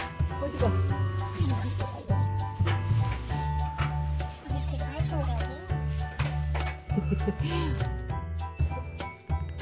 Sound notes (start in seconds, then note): 6.9 laughing